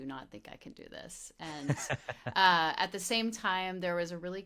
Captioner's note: laughing